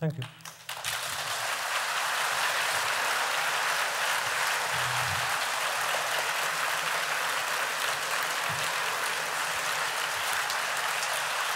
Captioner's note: applause